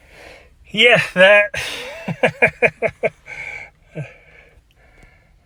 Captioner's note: chuckles